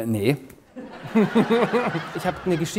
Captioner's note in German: lacht